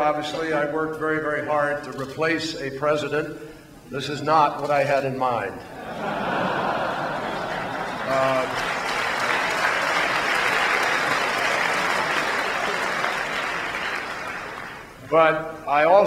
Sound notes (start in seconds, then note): 9.3 laughter; 11.4 applause